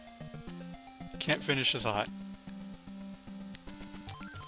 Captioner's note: laughs